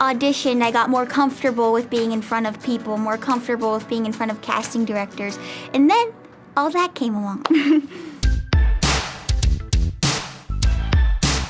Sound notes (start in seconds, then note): 7.5 laughs; 8.5 hip hop music